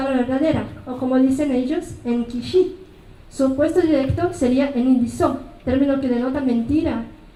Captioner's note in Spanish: habla en mazateco